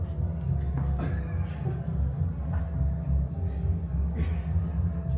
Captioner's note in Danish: nogen i salen griner